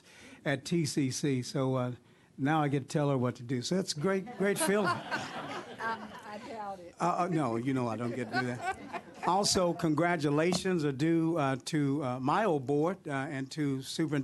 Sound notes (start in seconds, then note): 6.2 laughter